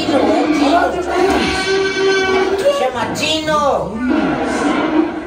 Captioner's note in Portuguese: grunhidos continuam